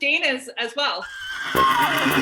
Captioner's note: horse neighing